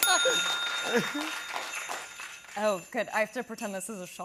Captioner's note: laughing; bell dings; normal voice